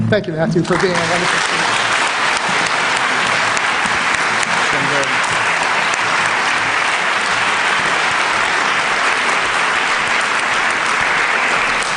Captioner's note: applause